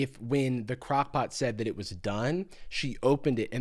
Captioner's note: none